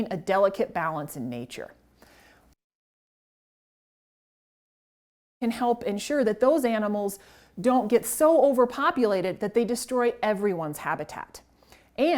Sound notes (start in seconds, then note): 2.6 audio cuts out